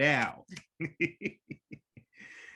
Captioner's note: laughs